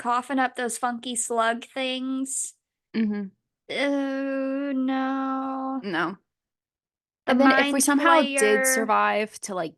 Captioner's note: sounds of disgust